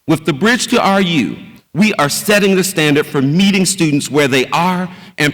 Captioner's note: none